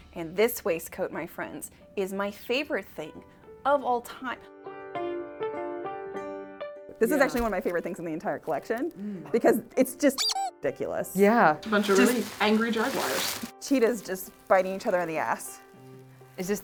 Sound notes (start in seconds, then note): 4.4 soft piano music; 10.2 squeak